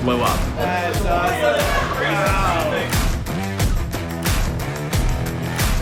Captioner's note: laughing